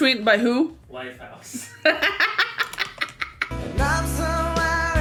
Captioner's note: laughs